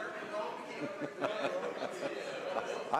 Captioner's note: speaking French